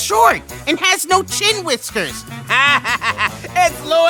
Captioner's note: laughs